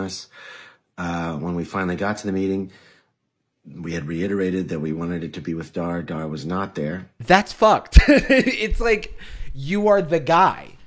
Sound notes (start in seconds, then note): 8.0 laughing